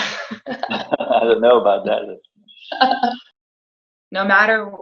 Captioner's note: chuckling; chuckling